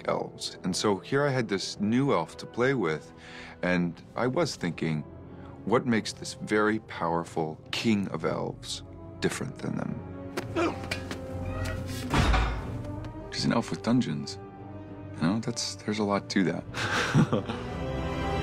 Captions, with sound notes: And so here I had this new Elf to play with, and I was thinking... ...what makes this very powerful King of Elves different than them? [GRUNTING] He's an Elf with dungeons. You know? There's a lot to that. [CHUCKLES]